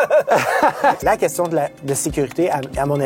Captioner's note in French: rires